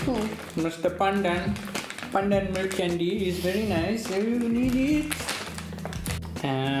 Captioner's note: indian accent